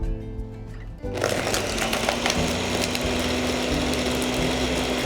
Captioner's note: gentle music; blending loudly